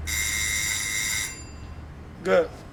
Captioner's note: timer rings